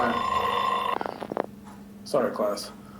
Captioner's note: broken bell ringing